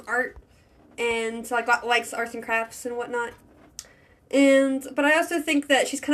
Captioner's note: stutter